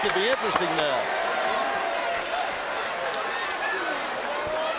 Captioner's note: audience cheering